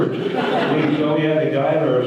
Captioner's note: audience laughter